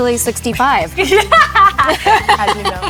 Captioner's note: both laughing